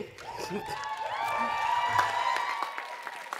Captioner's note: cheering and Applause